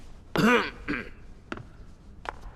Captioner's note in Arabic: سعال